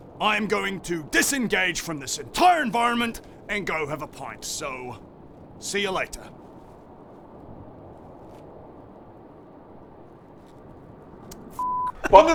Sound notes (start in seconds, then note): 6.5 bleak sounds of the wilderness; 8.0 subtle creaking of leather